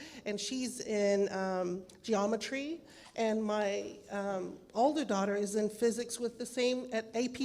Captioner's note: none